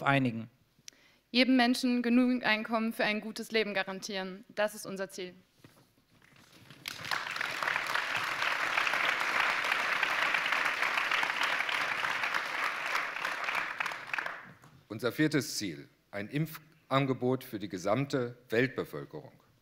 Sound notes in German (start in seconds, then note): 6.7 Applaus